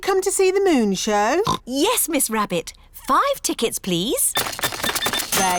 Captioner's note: oinks